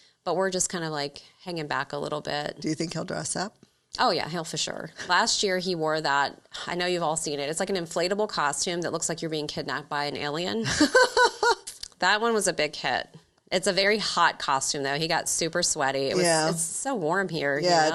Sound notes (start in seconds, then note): 10.6 laughing